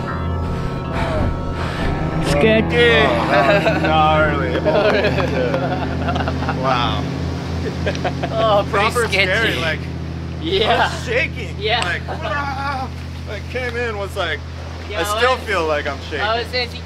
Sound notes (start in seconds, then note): 2.3 laughs